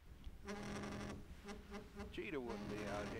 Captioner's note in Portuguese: celular vibrando